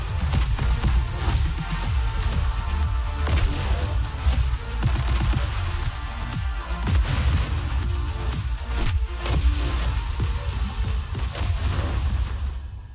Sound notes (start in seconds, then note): 0.1 gunfire; 3.2 zap; 4.8 machine gun; 10.2 zaps